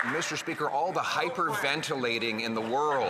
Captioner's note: some Applause